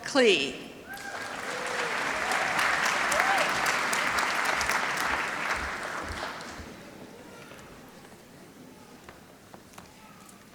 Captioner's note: applause